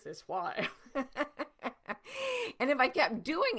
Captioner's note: laughing